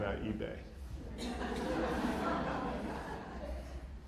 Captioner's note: laughter